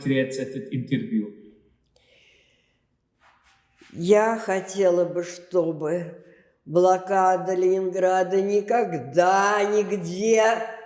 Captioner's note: gasping